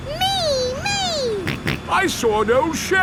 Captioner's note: snorts